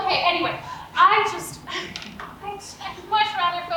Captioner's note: sighs